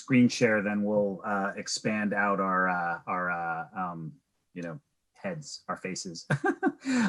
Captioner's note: laughs